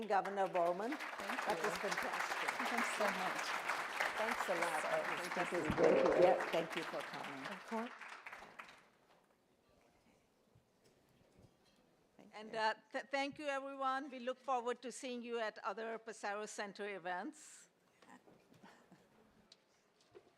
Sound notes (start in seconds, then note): 2.1 applause